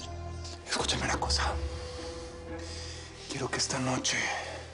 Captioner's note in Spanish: Susurra